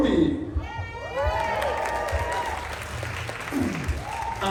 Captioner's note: applause